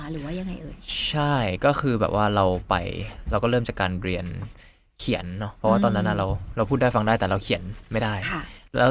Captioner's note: Korean